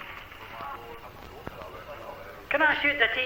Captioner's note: people chattering